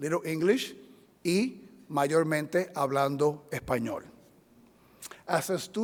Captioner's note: speaking in foreign language